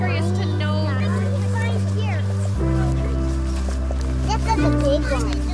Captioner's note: children chattering